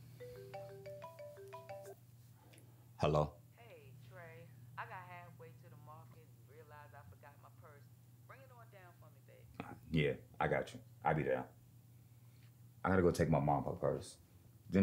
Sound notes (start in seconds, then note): 3.7 yolanda over the phone